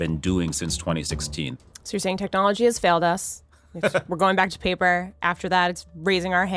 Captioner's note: laughter